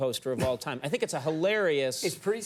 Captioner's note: laughs